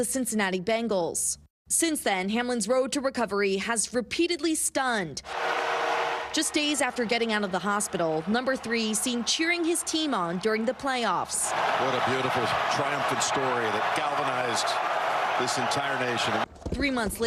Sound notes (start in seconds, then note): 12.0 cheers